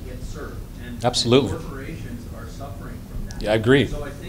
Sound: voiceover

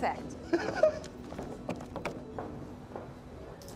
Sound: Tom laughing

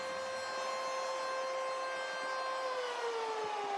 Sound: siren

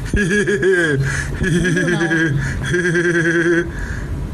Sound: laughing

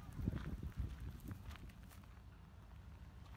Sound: footsteps on gravel

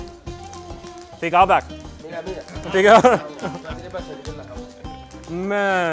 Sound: speaks foreign language

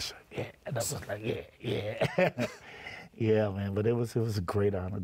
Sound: laughs

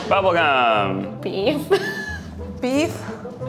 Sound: laughs

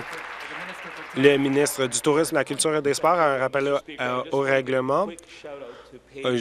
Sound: applause

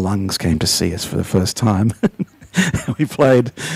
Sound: laughs

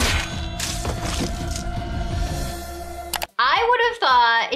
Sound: sound of hydrant hitting man

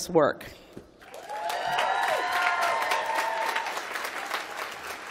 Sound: applause

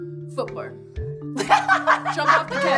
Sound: laughing

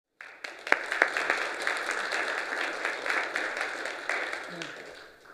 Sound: applause

